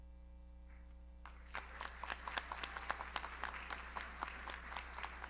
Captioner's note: audience applauds